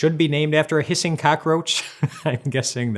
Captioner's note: laughs